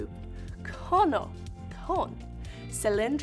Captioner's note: speaking in Spanish